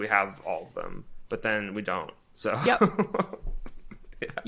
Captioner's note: chuckling